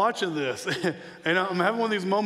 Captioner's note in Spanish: chuckles